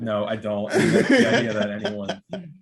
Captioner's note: laughing